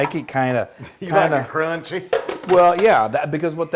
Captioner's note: laugh